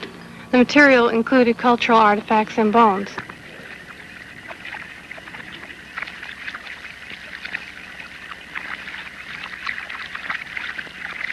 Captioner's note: sounds of running water and brushing